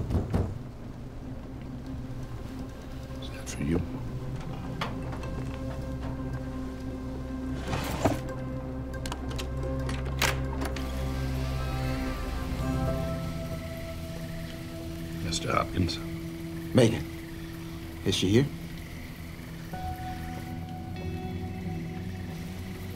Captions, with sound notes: (door knocking) (anxious music) Is that for you? (lock clicking) (door squeaking) Mr. Hopkins? - Macon, is she here? (worrisome music)